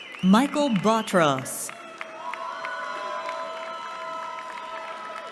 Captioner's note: cheering